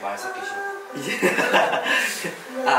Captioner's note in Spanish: Jajaja